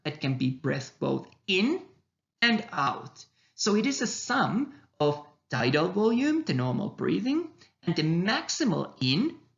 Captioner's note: the normal breathing